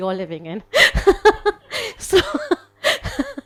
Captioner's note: laughs